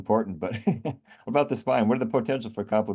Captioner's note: laughs